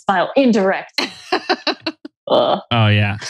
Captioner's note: laughs